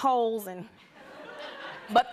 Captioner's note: laughter